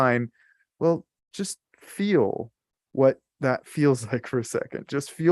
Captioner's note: chuckles